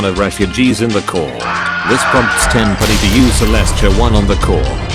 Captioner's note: Multiple Wilhelm screams